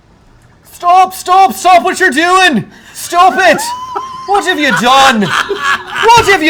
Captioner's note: in an Irish accent